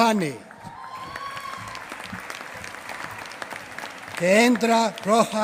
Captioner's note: applause